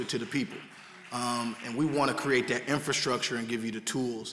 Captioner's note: applause